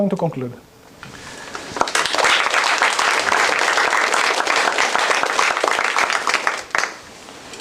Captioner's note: applause